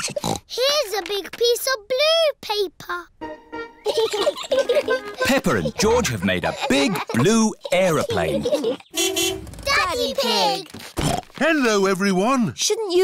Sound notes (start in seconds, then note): 0.0 snorts; 3.8 both giggling; 8.9 horn honks; 10.9 snorts